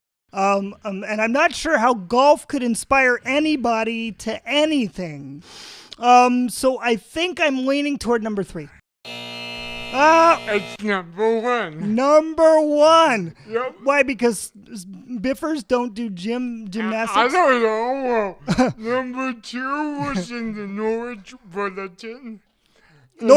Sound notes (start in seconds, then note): 9.0 the "you lose" buzzer; 18.3 chuckles